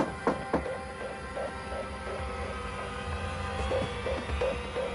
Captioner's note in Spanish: Toques en la puerta